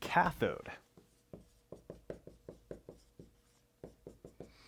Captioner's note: pen scratching